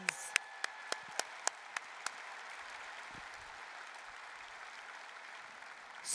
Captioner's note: applause, cheering